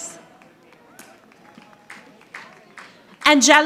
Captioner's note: audience applauding